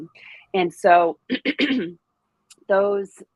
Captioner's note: clears throat